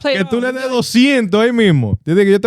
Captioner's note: speaking In Foreign Language